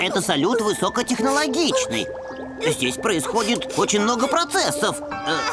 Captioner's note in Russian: начинает хныкать